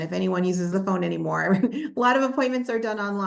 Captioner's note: chuckles